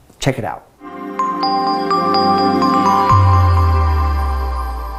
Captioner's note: bells chiming